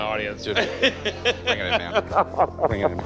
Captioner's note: laughs